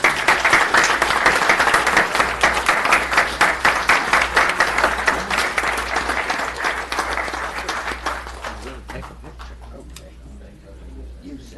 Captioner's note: applause